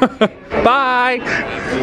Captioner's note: laughs